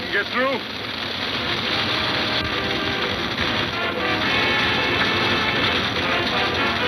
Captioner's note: fire crackling; suspenseful music